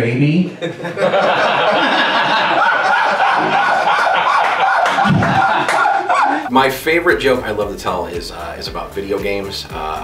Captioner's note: laughter